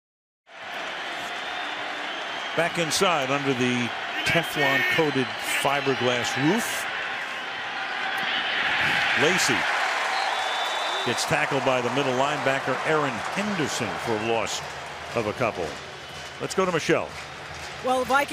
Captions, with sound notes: [cheering] Back inside under the Teflon-coated fiberglass roof. Lacy. [whistle blows] Gets tackled by the middle linebacker, Erin Henderson, for a loss of a couple. Let's go to Michele.